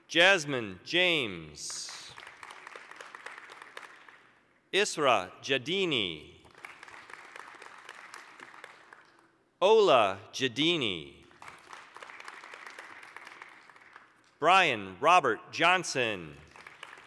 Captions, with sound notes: Jazmyne James. (applause) Israa Jeddeeni. (applause) Ola Jeddeeni. (applause) Brian Robert Johnson.